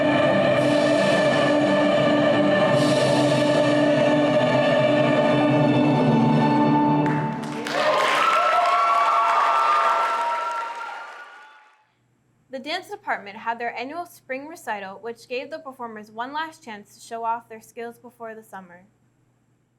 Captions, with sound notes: *Choir singing* *Applause* The Dance department had their annual Spring recital, which gave the performers one last chance to show off their skills before the summer.